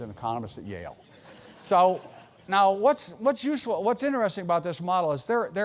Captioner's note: laugh